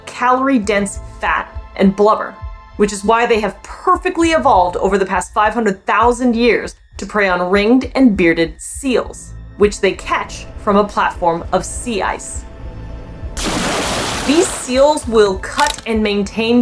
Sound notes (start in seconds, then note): 12.5 background music; 13.4 big water splashing noise; 13.4 background music